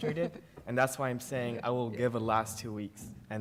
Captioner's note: laughter